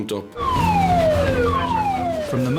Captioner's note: alarm blaring